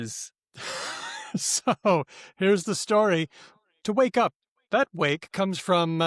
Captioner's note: laughs